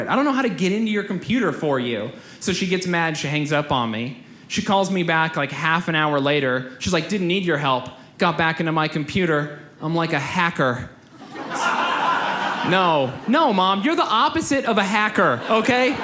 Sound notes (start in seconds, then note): 11.2 audience laughs; 15.1 audience laughs